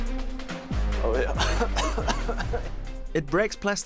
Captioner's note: nauseating cough